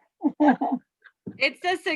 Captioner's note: soft giggles